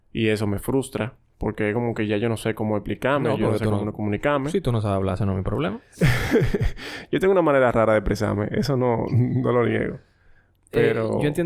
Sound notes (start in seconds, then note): 6.0 laughs